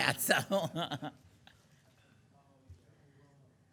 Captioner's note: laughing